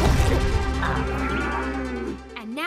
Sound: groaning

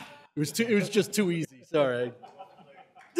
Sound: laughter

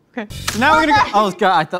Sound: grate clangs

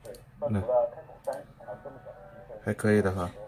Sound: monitor sound

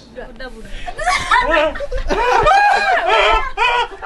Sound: laughing

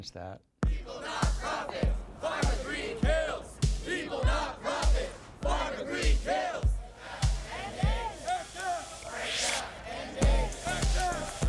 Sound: various Chanting

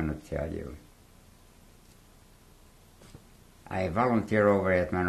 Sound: pauses for 3 seconds

